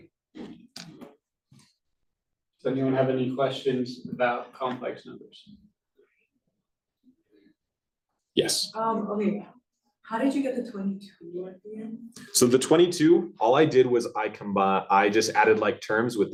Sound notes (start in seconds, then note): none